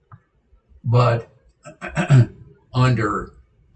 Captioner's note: clears throat